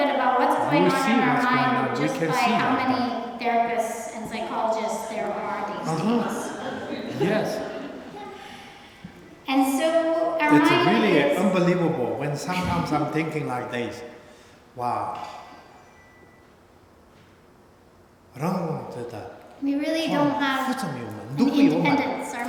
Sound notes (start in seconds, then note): 5.6 laughter; 18.4 speaking tibetan